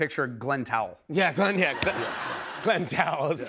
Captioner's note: laughter